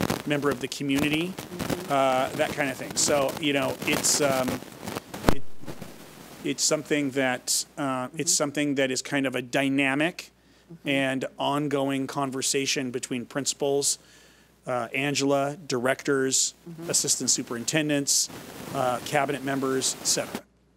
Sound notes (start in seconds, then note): 3.5 microphone static